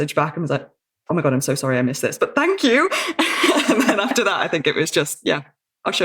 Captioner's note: laughs